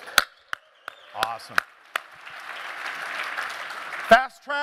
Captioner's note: applause